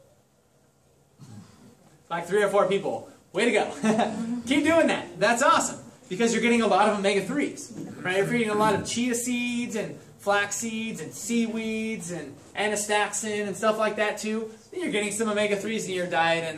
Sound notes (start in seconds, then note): 3.9 chuckle